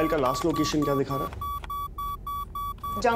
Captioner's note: Beeping